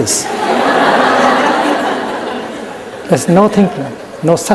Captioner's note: laughter in the audience